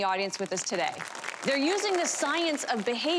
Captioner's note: audience applause